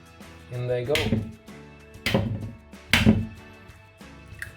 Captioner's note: crushing eggs